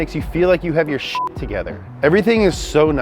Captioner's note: beep